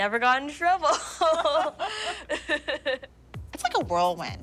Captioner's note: laughing